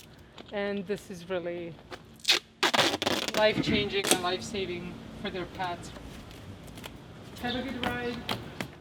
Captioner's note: taping sounds